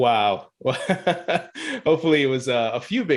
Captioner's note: laughing